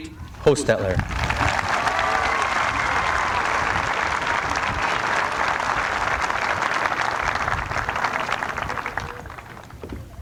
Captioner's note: applause